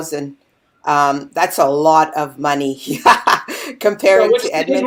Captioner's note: laughing